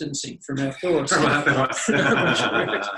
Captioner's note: both laugh